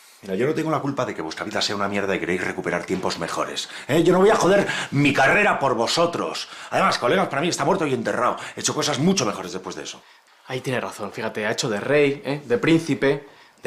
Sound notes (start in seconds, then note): none